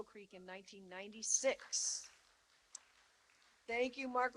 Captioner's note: applause